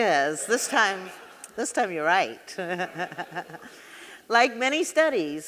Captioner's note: chuckling